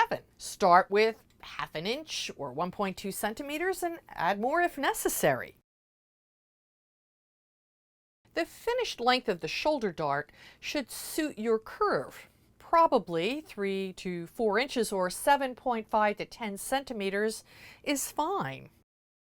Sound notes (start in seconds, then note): 5.6 no Sound Present; 18.8 no Sound Present